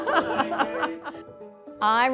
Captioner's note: laughter